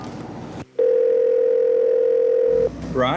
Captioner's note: phone ringing